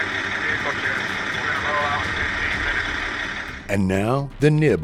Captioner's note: poor radio audio